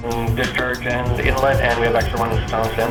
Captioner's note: man On Radio